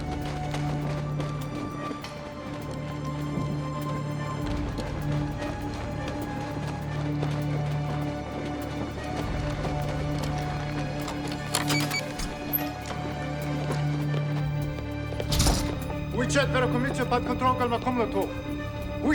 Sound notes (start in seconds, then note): 11.2 lock beeps; 15.9 speaking Russian